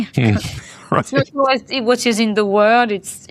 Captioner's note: laugh